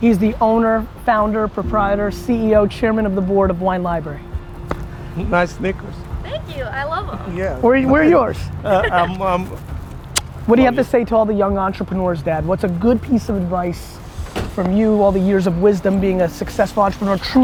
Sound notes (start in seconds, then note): 8.6 laughs; 10.1 smooching